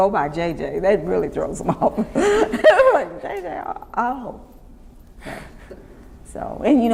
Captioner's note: laughs